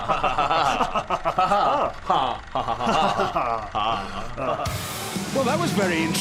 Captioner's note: laughing